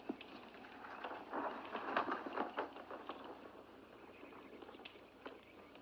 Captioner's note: fire crackles; paper rustling